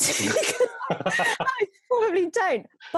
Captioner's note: both laugh